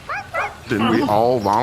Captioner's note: dogs barking happily